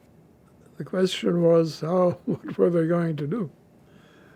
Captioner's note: laughing